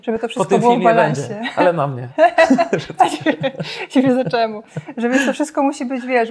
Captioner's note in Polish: śmiech